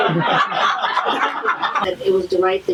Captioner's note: audience laughter